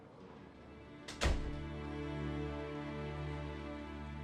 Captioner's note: door closes